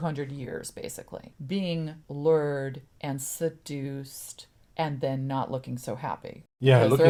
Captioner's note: laughs